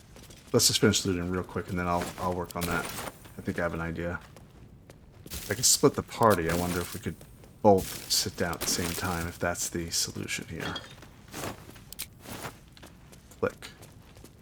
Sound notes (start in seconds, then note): none